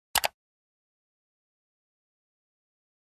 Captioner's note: click